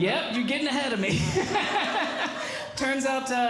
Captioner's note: laughing